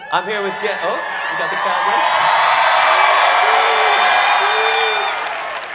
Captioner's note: audience cheering